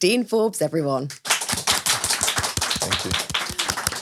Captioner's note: all applaud